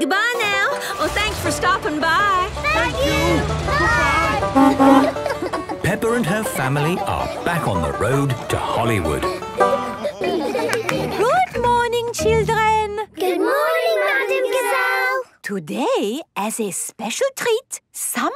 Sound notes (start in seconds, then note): 5.3 honking